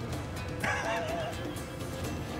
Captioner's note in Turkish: Gülme sesi